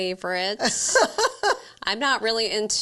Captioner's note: laughing